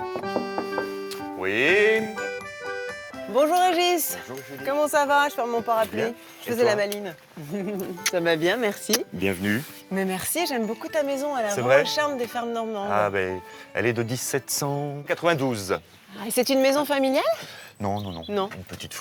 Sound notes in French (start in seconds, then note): none